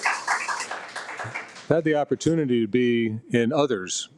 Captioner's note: audience applauding